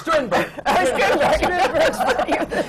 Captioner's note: laughter